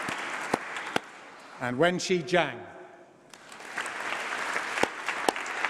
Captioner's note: applause